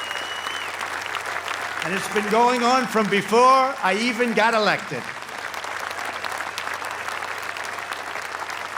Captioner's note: applause